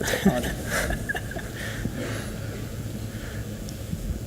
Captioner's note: laughs